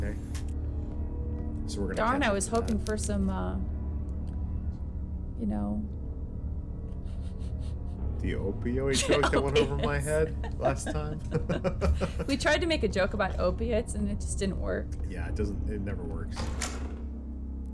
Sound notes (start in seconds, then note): 8.2 laughs